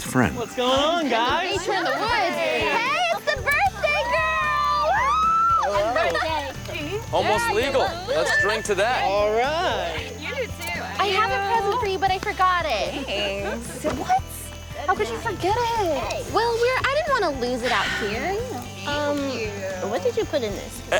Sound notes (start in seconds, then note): 1.3 group laughs; 4.1 screams excitedly